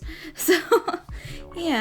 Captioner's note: giggles